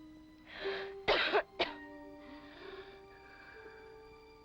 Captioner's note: Helen coughs; somber ominous music